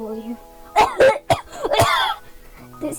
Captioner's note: heavy dying cough